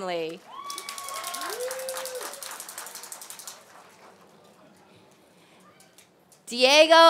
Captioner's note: applause